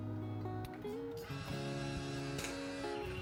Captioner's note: click